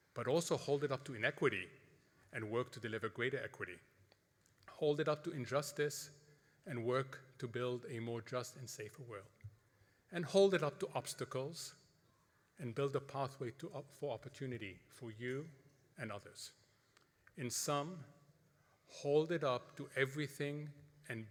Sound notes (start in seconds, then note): none